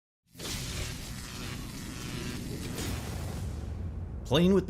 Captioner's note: electricity buzzing